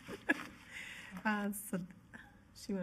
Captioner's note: laughing